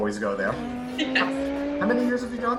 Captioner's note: race car engine; laughs